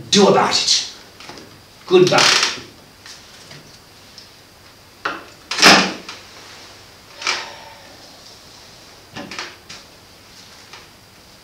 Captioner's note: phone rings